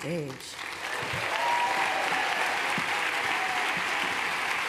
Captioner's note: cheers, applause